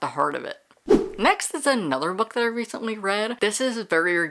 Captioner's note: whoosh